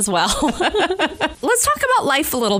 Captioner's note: laughter